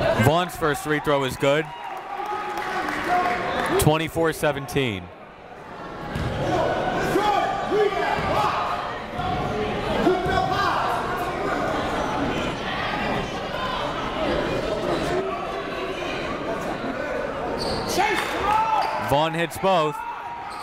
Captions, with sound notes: Vaughn's first free throw is good, 24-17. (crowd talking) (coaches yelling) Vaughn hits both.